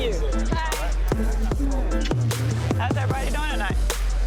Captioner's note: lips smooching